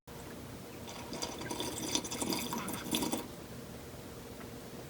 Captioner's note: slurpin' coffee